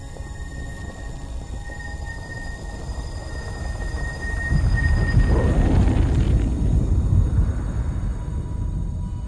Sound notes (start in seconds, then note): 5.3 static cracking; 5.3 thunder rumbling